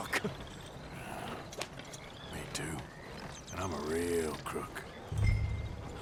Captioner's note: grunts